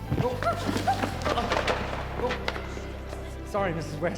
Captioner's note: gasping